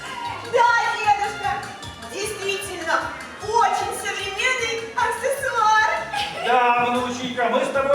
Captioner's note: laughs